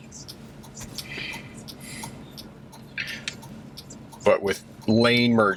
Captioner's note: turn signals clicking